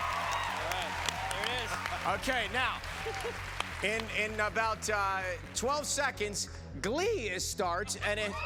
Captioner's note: cheers and applause